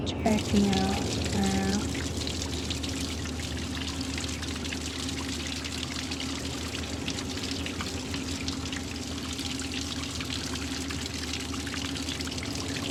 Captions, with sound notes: Checking out now. (waterfall sounds) (wind)